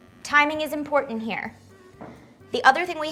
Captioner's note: none